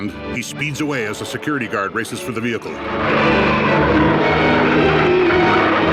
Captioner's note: tires screeching